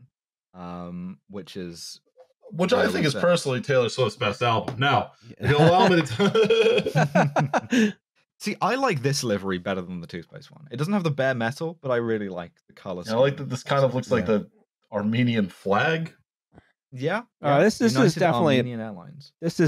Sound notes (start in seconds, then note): 5.4 laughs; 5.5 dissolves into laughter